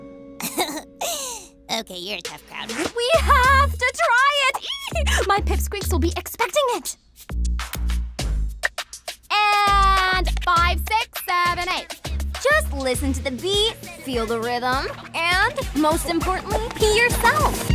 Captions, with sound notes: [giggles] Okay, you're a tough crowd. We have to try it! [squeals] My pipsqueaks will be expecting it. And five, six, seven, eight. Just listen to the beat, feel the rhythm, and most importantly, yourself.